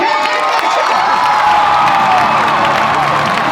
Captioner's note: applause